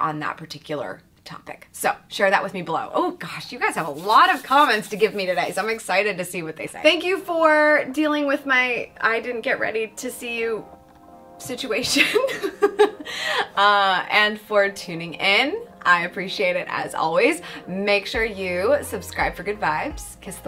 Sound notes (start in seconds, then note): 12.0 chuckles